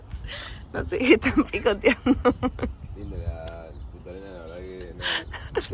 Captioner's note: laughs